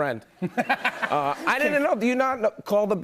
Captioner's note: laughter